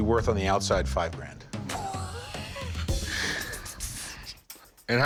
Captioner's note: both laugh